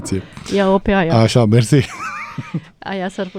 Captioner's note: laughter